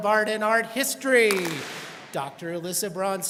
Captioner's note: students clap